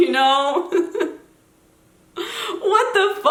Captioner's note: giggles